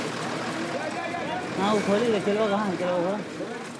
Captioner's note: hindi-spoken audio